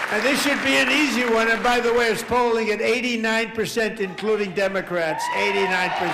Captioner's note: applause